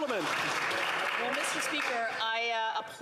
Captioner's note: cheering and Applause